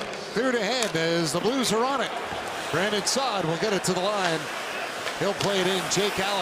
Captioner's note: cheering and Applause